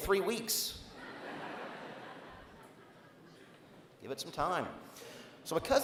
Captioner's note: laughter